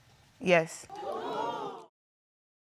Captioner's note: audience gasps